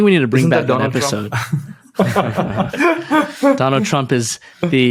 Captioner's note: laughing